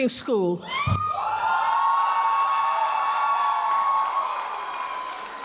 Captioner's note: audience cheers and applauds